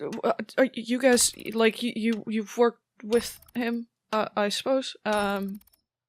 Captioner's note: stammering